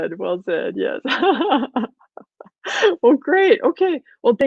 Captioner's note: laughing